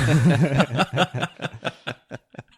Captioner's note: laughing